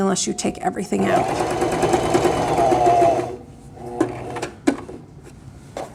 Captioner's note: sewing machine whirring